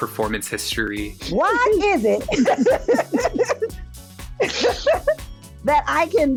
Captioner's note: laughing